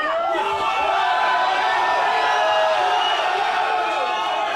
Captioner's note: cheering